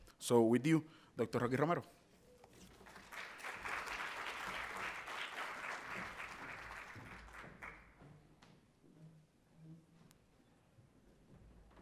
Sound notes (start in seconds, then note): 2.7 audience applauding